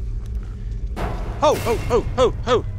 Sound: metal clangs

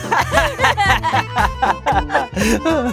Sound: laughing together

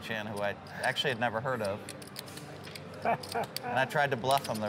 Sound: laughing

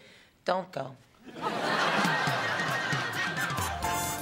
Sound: laughter

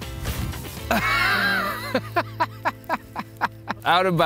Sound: laughing

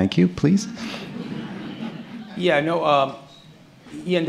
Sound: laughter

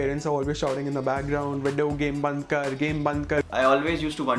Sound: speaking foreign language

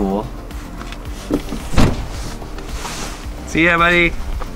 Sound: door slams

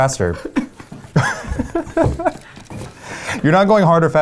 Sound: laughing

